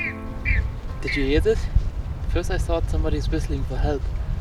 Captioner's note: animal noise